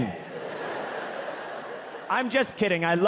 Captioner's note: audience laughing